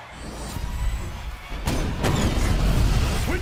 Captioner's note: gunfire